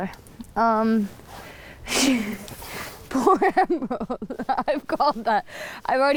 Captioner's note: laughs